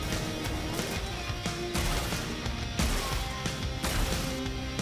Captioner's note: Walker firing